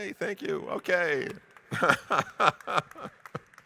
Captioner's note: laughs